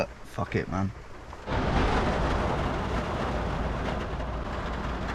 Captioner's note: rain pattering